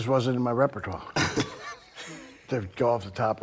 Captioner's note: Rick laughing